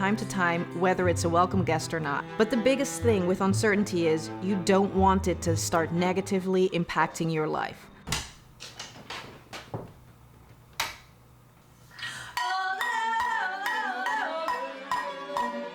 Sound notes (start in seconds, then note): 10.8 light switch turns on; 11.9 singing